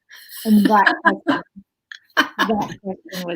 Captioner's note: laughs